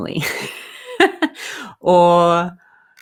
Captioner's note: laughs